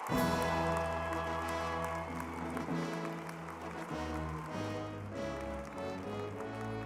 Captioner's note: crowd cheering; crowd applauding; uplifting music